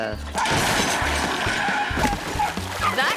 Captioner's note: table crashes